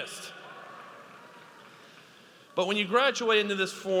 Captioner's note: audience applauds